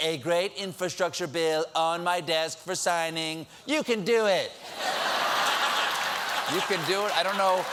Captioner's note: laughter